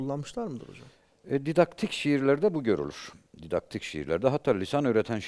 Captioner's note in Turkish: homurdanır